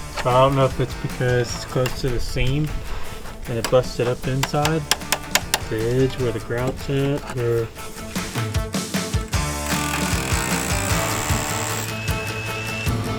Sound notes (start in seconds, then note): 9.3 drill buzzing